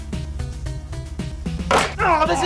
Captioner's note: clank